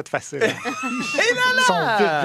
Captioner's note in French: rires